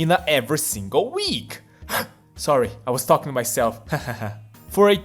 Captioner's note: gasp